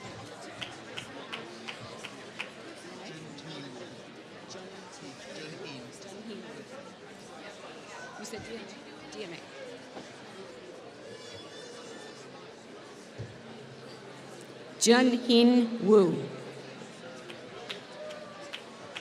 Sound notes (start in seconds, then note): 0.5 applause